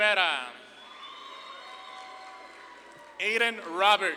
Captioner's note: audience claps and cheers